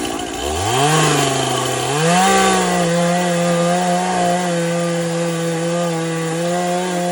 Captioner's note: chainsaw noises